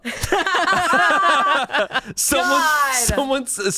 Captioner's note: group laughs